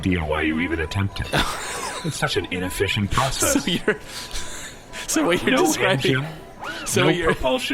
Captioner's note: laughing